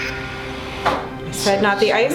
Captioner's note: object bangs; intense suspenseful music